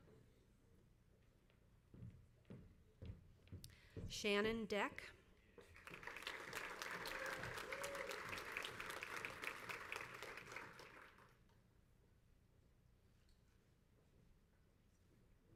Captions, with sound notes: Shannon Deck. (crowd applauds)